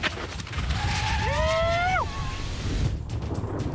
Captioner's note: cheering